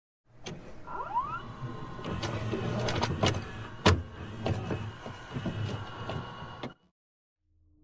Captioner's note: VHS noises